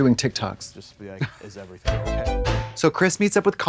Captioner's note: Trixie tootles; synth bop